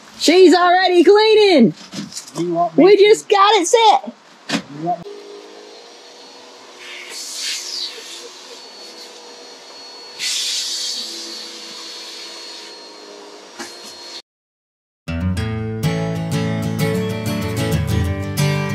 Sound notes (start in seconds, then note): 4.7 vacuum sound